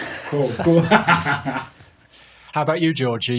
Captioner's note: laughing